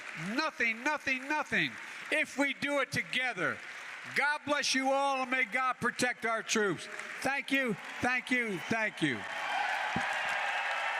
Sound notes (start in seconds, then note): 3.1 applause; 9.8 applause